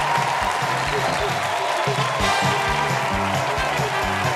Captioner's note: cheers and applause